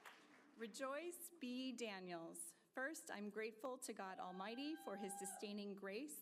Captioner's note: applause